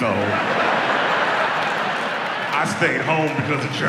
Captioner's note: audience laughs